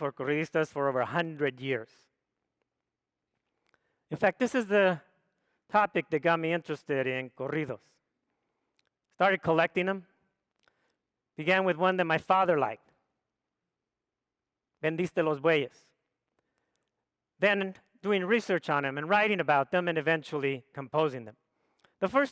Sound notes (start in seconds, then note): 15.1 speaks foreign language